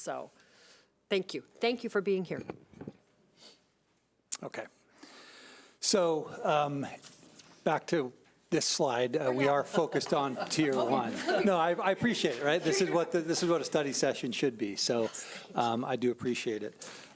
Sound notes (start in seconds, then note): 9.2 chuckling